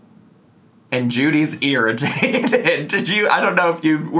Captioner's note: laughs